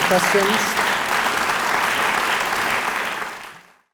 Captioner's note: applause